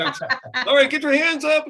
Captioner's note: laughing loudly